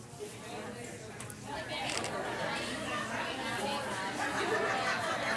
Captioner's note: participants conversing